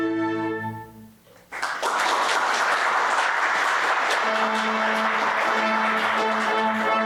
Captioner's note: applause